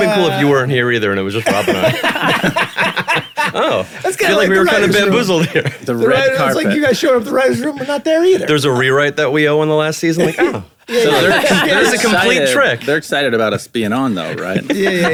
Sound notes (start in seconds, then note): 3.1 group laughing